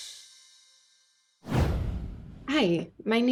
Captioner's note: air whooshing